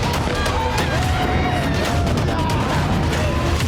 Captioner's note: screaming